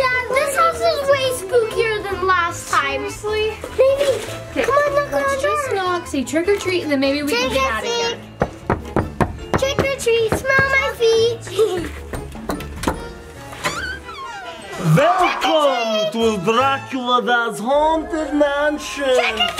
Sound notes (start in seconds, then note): 8.4 knuckles thumping; 12.0 door creaks; 12.1 door clicks